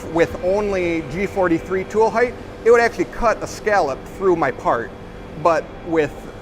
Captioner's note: sweeping